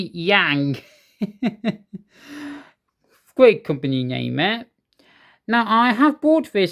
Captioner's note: chuckles